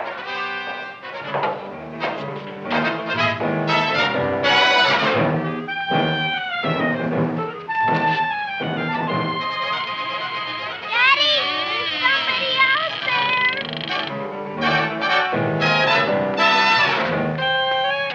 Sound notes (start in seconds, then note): 8.6 door opening; 13.6 dramatic music continues